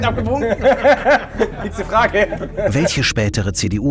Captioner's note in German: Lachen